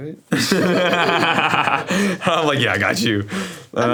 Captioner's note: both laugh